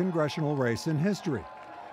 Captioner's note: cheers and applause